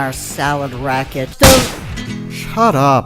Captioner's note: gun shot/blood splatter